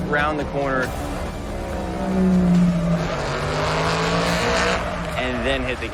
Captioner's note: engine rumbling